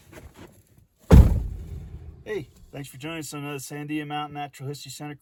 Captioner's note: car door noises